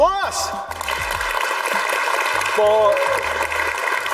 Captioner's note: audience claps